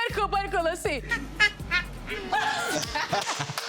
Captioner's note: both laugh; child laughs; Young Ezee claps